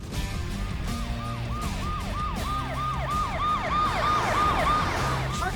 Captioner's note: sirens wail